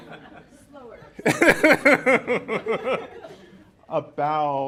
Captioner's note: laughter